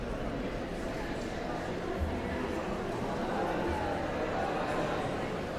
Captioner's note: audience chattering continues